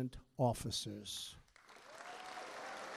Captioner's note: applause